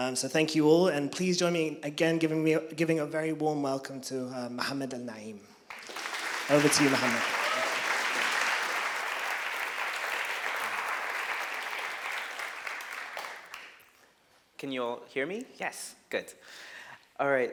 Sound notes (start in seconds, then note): 9.7 applause